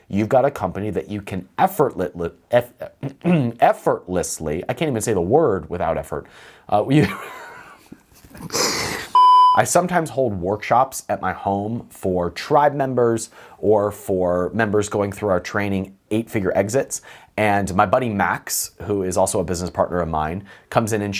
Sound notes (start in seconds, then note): 7.0 laughs